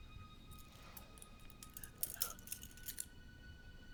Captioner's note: metal cling